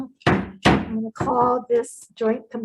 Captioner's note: gavel banging